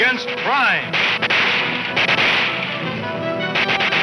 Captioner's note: gunshots banging